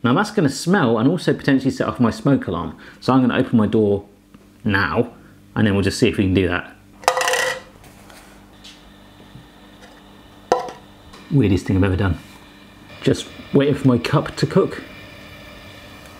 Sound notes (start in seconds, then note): none